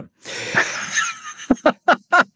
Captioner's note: laughing